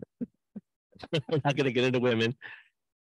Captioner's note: laughs